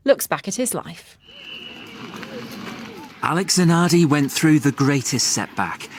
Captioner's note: crowd cheering